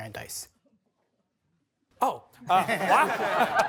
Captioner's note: laughter